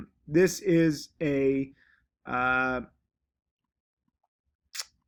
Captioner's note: sucks teeth